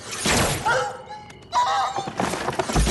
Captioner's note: bark and whine